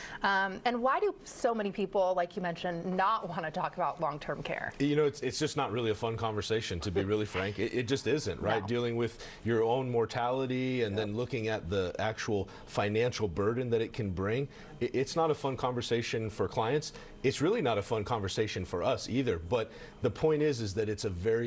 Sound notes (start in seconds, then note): 6.7 laughs